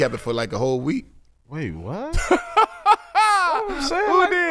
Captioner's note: laughing